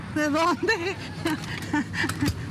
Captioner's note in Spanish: risa